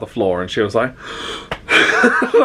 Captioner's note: gasps; laughs